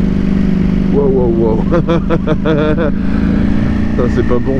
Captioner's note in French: rire